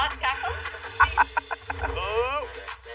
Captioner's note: laughs